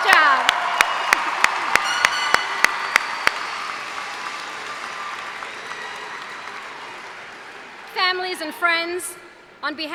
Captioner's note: cheers and applause